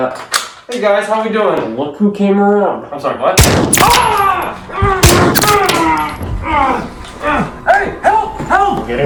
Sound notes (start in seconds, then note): 3.4 gunshot; 4.1 groans in pain; 4.8 screams; 5.0 gunshot